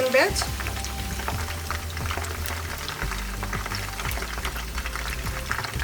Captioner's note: chicken sizzling